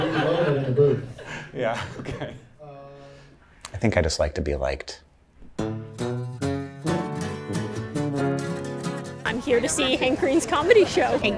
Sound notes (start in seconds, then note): 3.0 laughs; 5.7 cheerful upbeat music